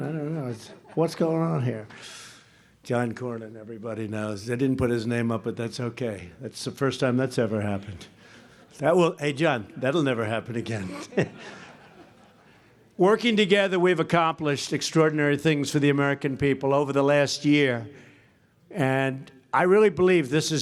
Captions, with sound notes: I don't know. What's going on here? (Laughter.) John Cornyn, everybody knows. They didn't put his name up, but that's okay. That's the first time that's ever happened. Hey, John, that will never happen again. (Laughter.) Working together, we've accomplished extraordinary things for the American people over the last year, and I really believe this